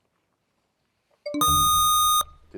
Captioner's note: bell chimes, time expires